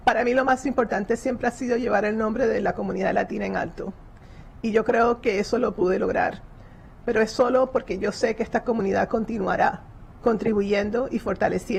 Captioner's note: spanish